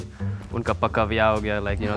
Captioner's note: speaking Hindi